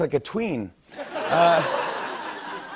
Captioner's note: laughter